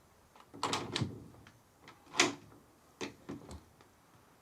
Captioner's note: door clicking